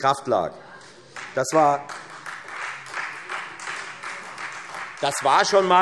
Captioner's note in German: Beifall Freie Demokraten